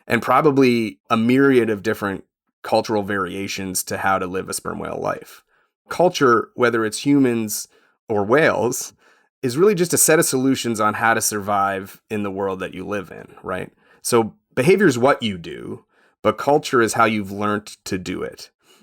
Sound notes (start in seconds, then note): none